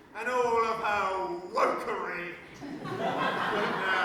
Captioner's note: audience laughter